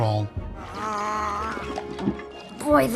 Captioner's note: Pinocchio humming